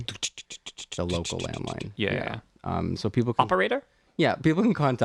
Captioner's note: laugh